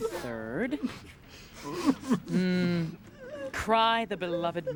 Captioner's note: weeping